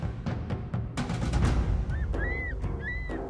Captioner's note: bird cries